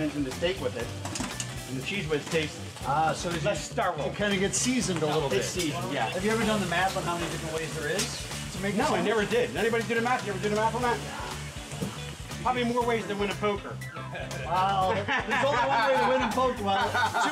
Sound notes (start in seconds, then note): 14.1 laughing